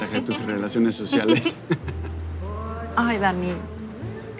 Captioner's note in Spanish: Risas